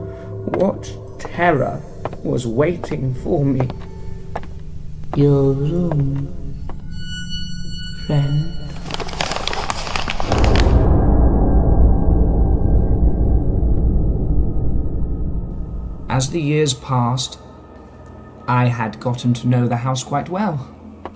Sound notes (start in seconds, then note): 8.6 paper rustles; 11.2 frightening chord